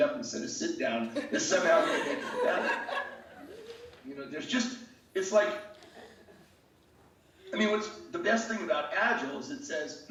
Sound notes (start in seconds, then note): 1.0 laughing